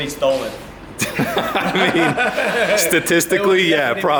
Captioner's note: all laughing